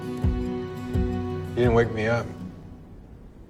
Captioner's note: voiceover